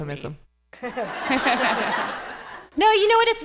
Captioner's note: laughter